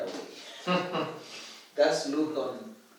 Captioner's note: laughs